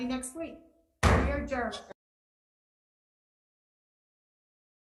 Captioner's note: gavel bams